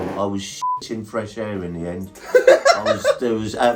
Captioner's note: beep; laughing